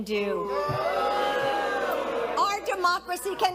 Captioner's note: crowd booing